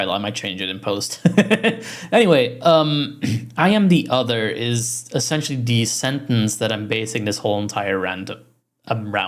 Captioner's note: laughs